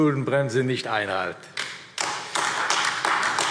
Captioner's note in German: Beifall AfD